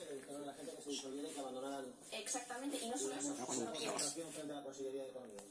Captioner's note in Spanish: Televisión de fondo